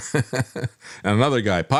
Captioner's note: laughs